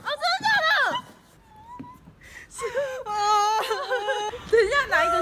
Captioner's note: crying for joy